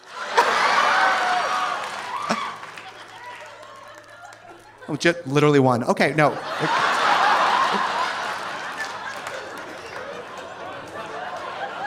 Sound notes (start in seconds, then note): 0.3 audience laughing; 0.4 audience applauding; 6.5 audience laughing